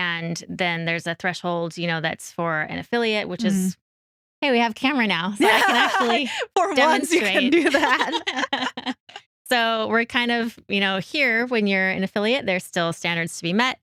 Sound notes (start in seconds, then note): 9.2 both Laughing